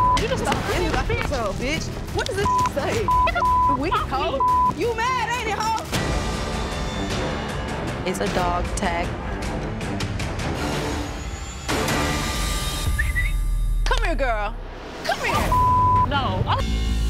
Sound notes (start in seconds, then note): 12.8 whistles